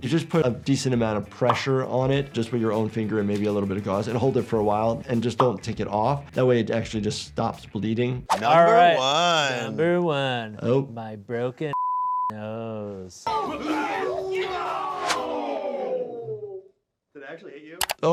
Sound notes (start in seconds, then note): 11.7 beep; 13.6 Anthony grunting